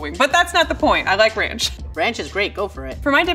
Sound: laughs

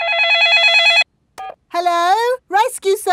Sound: dialing; cell phone ringing

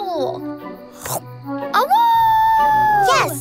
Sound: chomping and howling

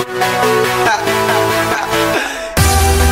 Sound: echoing

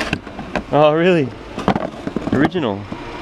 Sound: clatters

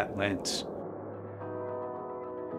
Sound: air whooshing; light music

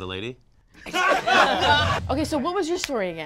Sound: group laughs

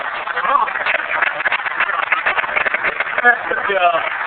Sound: applause

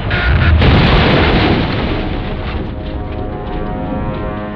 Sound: explosion

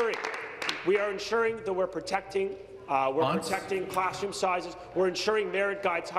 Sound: applause

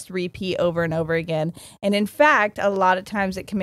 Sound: none

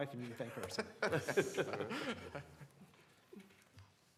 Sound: laughter

